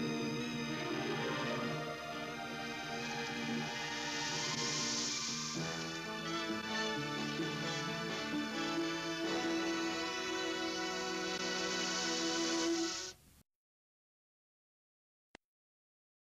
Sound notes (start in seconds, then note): 13.7 silence